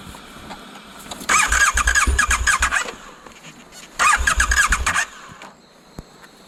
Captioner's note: engine turning over, but not starting